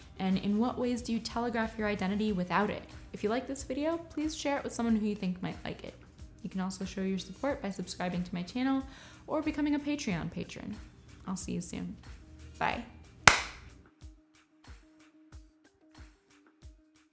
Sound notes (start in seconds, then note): 13.0 lighthearted music; 13.2 claps